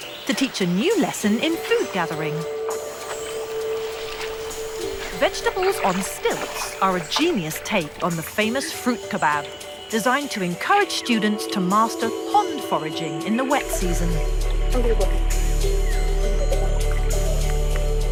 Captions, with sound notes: to teach a new lesson in food gathering. (water rustling) Vegetables on stakes are a genius take on the famous fruit kebab. Designed to encourage students to master fun foraging in the wet season. (bright upbeat music)